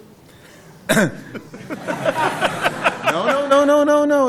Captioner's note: coughs; laughter